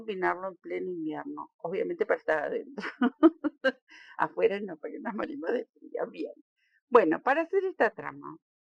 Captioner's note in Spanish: risas